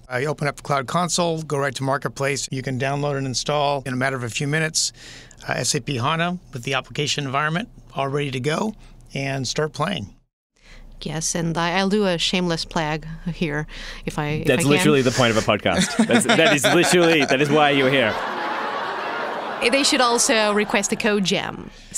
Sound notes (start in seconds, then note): 18.2 laughter